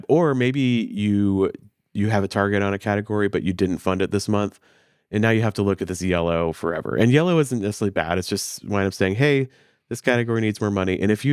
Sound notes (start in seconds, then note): none